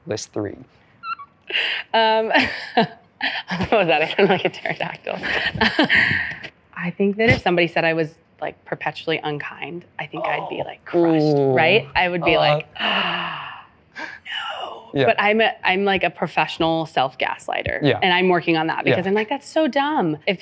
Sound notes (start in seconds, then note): 1.0 squeak; 3.9 chuckling